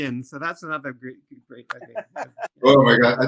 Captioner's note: laughter